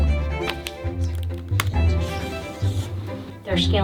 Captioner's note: keys typing; paper slamming; pen writing